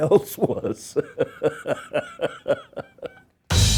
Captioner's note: laughing